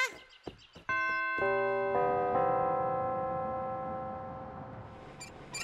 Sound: bells chime; squeaking

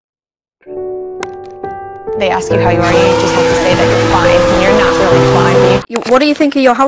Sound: deathaning screechi ng and music stuff

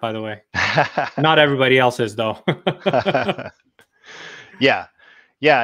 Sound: laughs

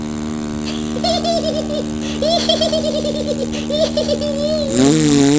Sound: Sara Uppet giggles; engine revs

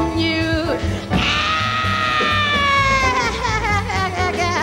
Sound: screams

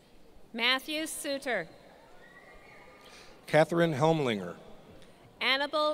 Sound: none

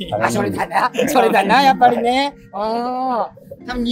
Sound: laughing

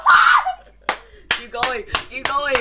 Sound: claP; CLaP clAP

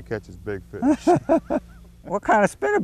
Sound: laughter

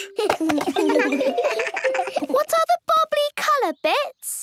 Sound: giggles

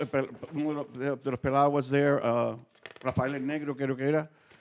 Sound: speaking Spanish

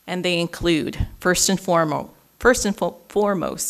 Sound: none

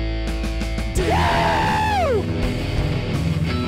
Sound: intense music; screaming; theme music

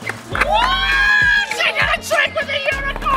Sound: whooping

